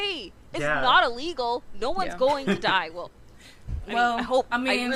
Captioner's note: scoffs